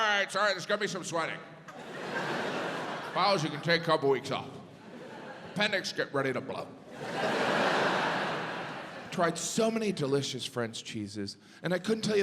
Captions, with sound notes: My brain took over. "It's all right, it's all right. "There's gonna be some sweating. "Bowels, you can take a couple weeks off. Appendix, get ready to blow." (audience laughs) Tried so many delicious French cheeses,